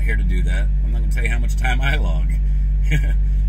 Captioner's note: laughs